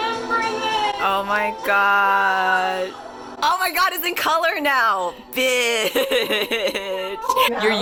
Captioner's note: laughs